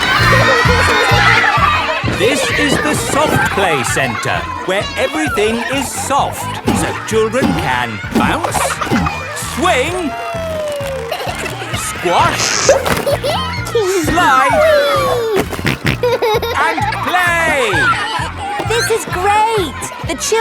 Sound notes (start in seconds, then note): 2.7 loudly over shouting; 12.9 giggles; 15.2 snorting